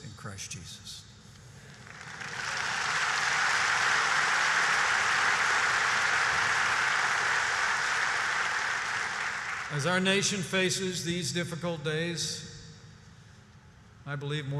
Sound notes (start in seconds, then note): 1.6 applause